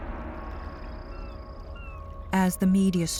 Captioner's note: bird squawking